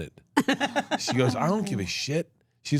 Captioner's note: laughs